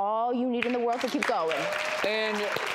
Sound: audience applauding

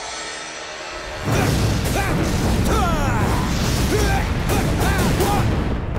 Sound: grunting

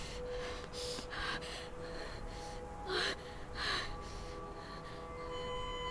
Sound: shivering and moaning

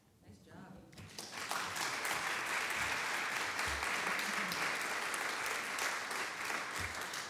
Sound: audience clapping

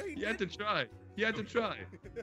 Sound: laugh

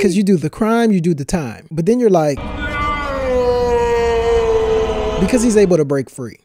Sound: James Earl Jones voice

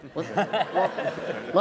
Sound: laughter

